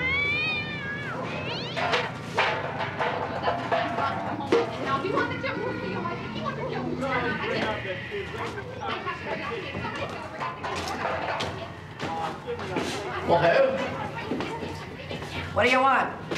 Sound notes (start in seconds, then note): 0.0 cat screeching; 1.3 clattering